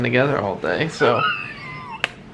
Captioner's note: smooches